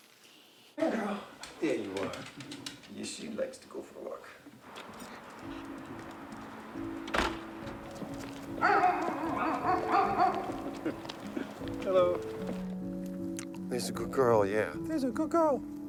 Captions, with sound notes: - There girl, there you are. Yes, she likes to go for a walk. (door thuds) (dog barking) Hello. There's a good girl. Yeah, there's a good girl.